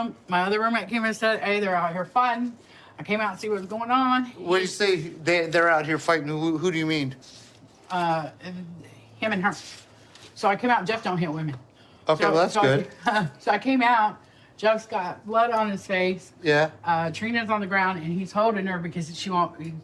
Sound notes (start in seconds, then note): 12.6 laughs